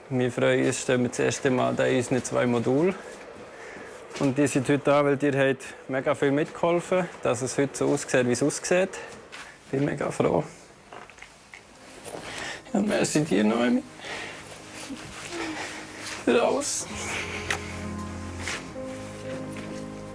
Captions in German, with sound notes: Wir freuen uns, dass wir zum ersten Mal in unseren zwei Modulen stehen. Und ihr seid heute Abend hier, weil ihr sehr mitgeholfen habt, dass es heute so aussieht, wie es aussieht. Danke dir, Noemi. (Schluchzend) Für alles. * Sanfte Musik *